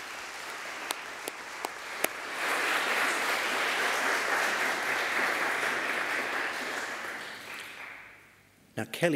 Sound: applause

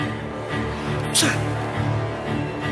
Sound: sneezing

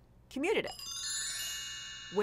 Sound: magical chiming

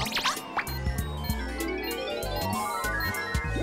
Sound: beeping sounds

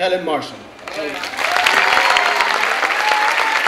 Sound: clapping

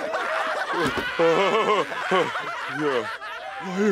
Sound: nervous laughter

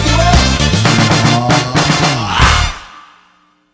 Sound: aaaaaaow!

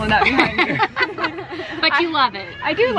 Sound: laughs

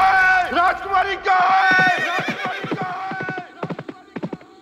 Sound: horse neighing

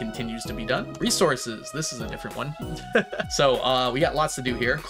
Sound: laughs

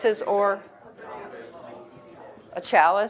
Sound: audience murmuring

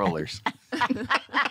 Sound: laughter

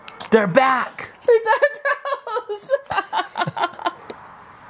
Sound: laughing

